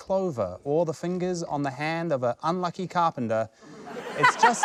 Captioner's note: laughter